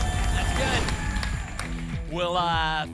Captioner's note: boom; whoosh